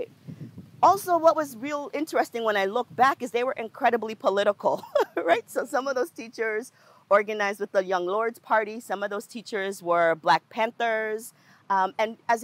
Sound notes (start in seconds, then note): 4.8 laughs